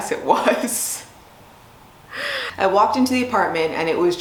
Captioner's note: laughs